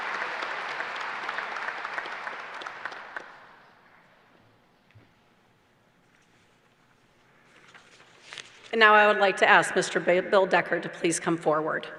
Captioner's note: applause